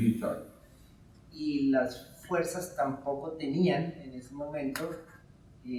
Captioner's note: speaking in Spanish